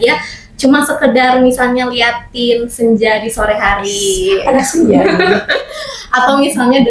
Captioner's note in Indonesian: tertawa